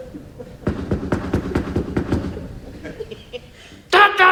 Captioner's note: trunk thudding